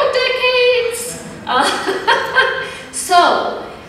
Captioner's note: laughter